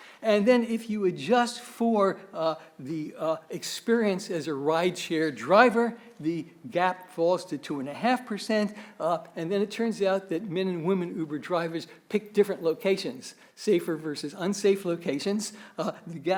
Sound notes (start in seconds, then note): none